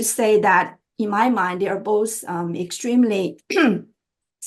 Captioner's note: clearing throat